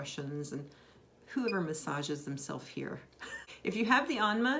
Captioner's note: laughs